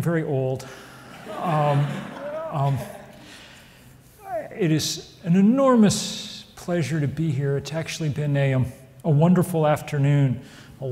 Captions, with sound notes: (audience laughs) It is an enormous pleasure to be here. It's actually been a wonderful afternoon.